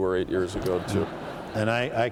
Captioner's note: laughter